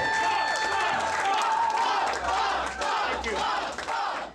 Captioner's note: cheers; chanting Bob